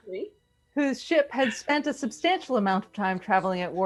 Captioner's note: laughs